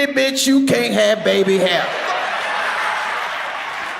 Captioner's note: audience laughs